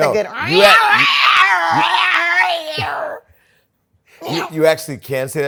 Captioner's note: imitating cat howling